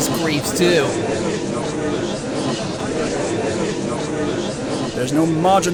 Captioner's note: gallery chattering